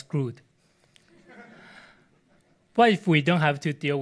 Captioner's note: audience laughs